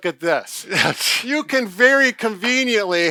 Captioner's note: laughing